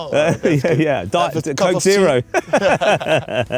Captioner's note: laughter